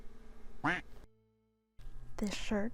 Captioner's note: quack noise